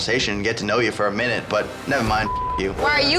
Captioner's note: beep